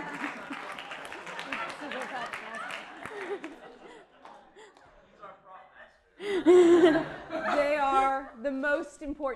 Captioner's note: applause